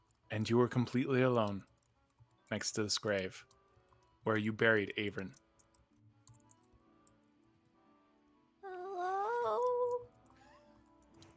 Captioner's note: crying